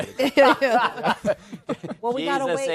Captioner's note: laughter